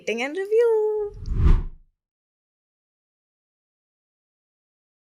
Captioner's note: air whooshing